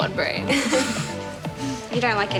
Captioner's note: laughing